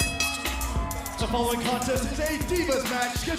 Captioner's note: bell ringing